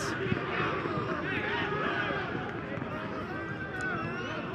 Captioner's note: cheering